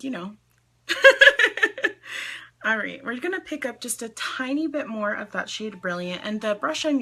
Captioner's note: laughs